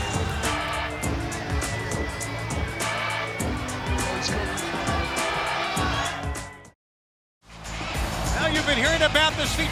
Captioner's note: crowd cheering